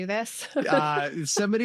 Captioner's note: laughter